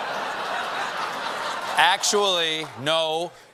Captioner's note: laughter